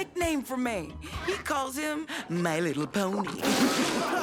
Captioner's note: crowd laughing